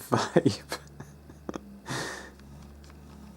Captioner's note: chortles